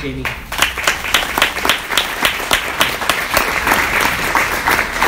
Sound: audience applauds

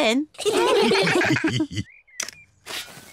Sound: all laugh

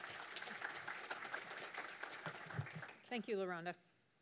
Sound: audience claps

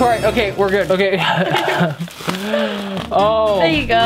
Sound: laughing

